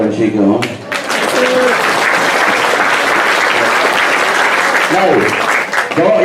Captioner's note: applause